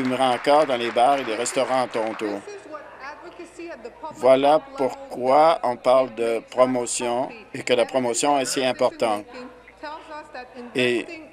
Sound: some Applause

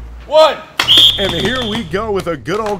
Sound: whistle blowing

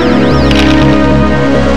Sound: camera click

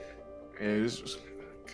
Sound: speaking faintly

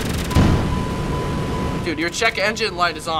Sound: dinging

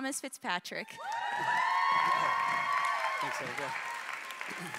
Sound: cheering

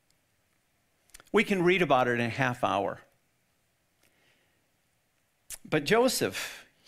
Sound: none

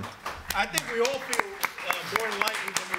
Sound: audience applauds

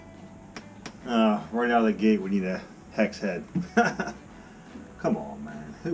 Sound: laugh

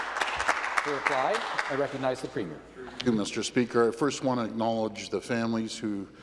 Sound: some Applause

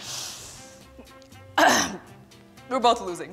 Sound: inhales deeply; clears throat

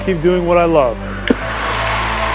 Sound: crowd cheers

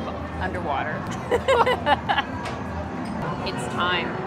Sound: laughs

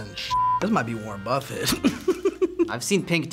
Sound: laughs

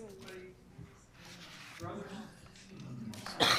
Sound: group chatter

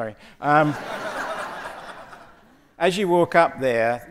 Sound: audience laughing

